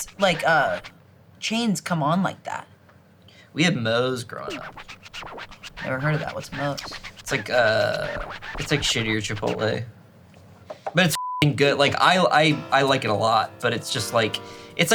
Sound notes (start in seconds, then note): 11.1 beep